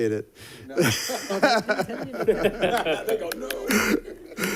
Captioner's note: laughter